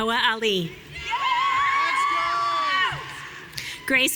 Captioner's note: audience cheering